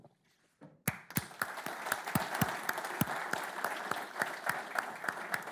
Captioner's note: audience clapping